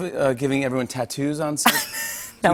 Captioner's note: laughs